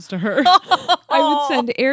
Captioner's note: laughs